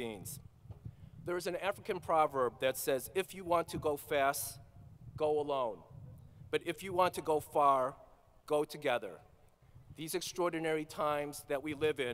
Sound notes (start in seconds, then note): none